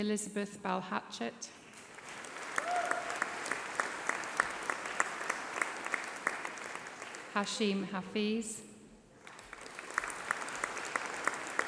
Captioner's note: applause